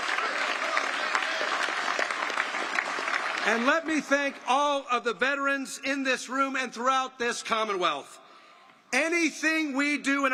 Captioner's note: applause